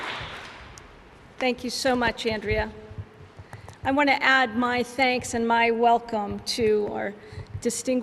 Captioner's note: alause